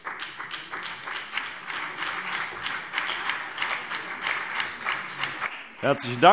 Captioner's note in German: Beifall BÜNDNIS 90/DIE GRÜNEN und CDU